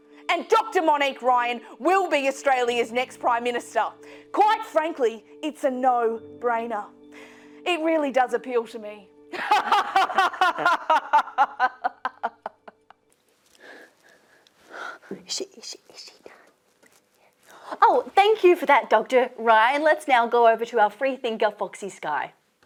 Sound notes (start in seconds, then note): 9.3 laughs maniacally; 15.1 whispering